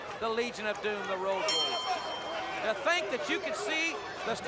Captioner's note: bell rings